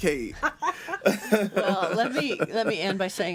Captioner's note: laughing